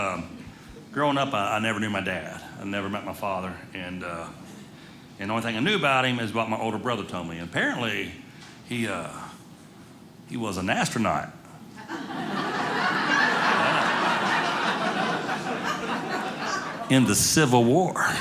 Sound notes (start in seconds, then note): 11.8 audience laughing